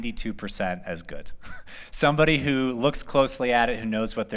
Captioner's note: laughter